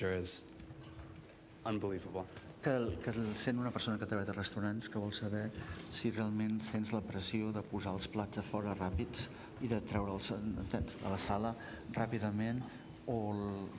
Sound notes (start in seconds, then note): 7.1 speaking catalan